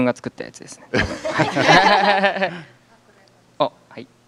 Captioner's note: laughs